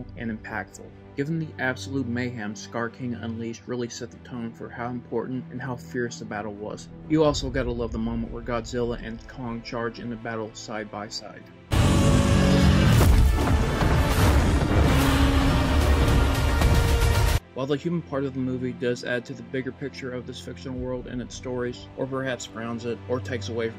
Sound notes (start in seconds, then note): 11.7 Godzilla and Kong Roaring